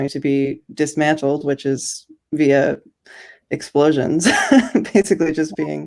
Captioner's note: chuckles